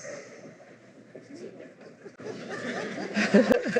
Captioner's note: laughter